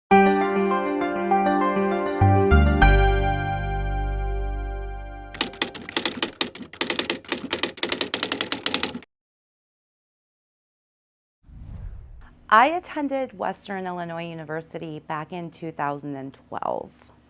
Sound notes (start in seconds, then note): 5.3 keyboard typing